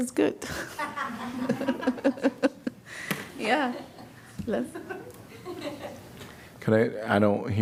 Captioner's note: laughter